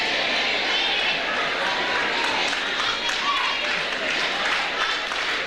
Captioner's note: overlapping chatter